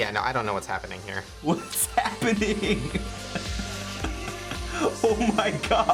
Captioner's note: laughing